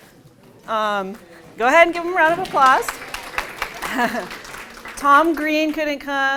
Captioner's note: applause